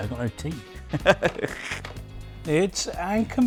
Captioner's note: laughs